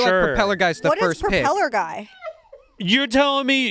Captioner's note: crew laughs